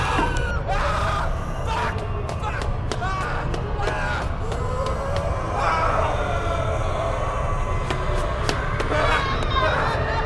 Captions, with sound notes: (Keith shouting) Fuck! Fuck! Ahhh! Ahhh! (mummies groaning) (mummies groaning)